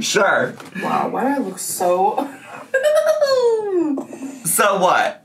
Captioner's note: laughs